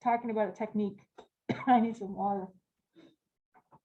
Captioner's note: coughing